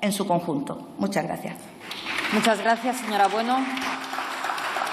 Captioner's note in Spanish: Aplausos